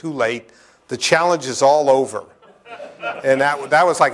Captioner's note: laughter